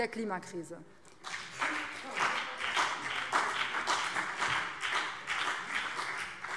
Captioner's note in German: Beifall BÜNDNIS 90/DIE GRÜNEN und CDU